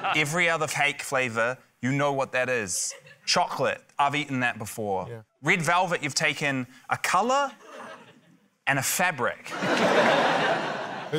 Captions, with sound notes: Every other cake flavour, you know what that is. Chocolate ― I've eaten that before. - Yeah. - Red velvet ― you've taken a colour and a fabric. (LAUGHTER)